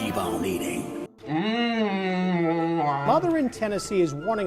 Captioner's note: moans happily